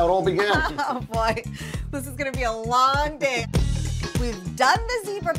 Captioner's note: laughs